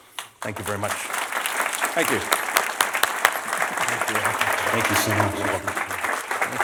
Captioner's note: applause